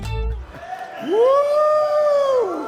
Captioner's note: people cheering